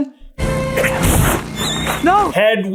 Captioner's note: horrible awful terrible no good very bad owl scream